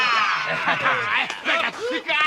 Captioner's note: bleating; shouting, laughing